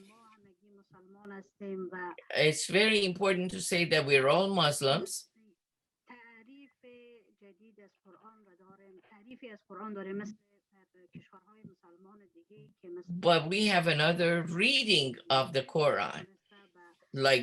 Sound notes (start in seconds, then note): 4.2 foreign language 01:22:43